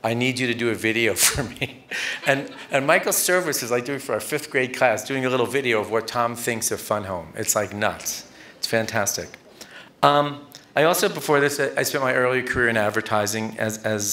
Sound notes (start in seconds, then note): 1.2 laughter